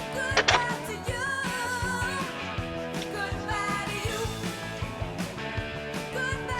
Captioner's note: door opens; door closes